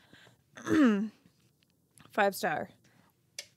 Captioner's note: clearing throat